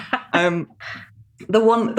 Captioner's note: laughs